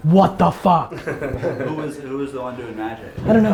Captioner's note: laughter